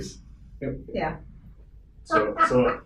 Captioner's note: laughs